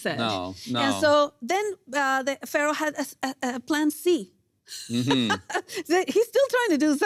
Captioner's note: laughs